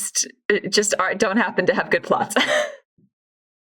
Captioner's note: laughs